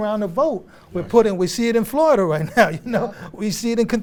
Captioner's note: chuckles